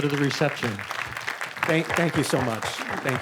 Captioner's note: audience applauding